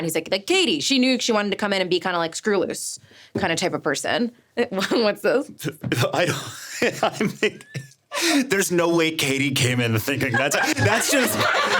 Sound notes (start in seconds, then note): 4.9 laughing; 10.2 everyone laughing